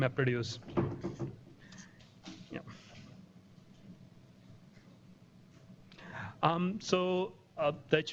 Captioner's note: pause